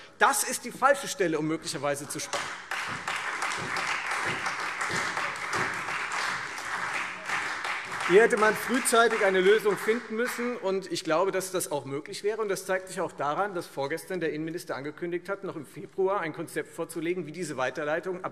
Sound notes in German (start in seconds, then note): 2.0 Beifall Freie Demokraten, SPD und DIE LINKE